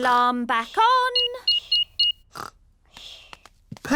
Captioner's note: beeping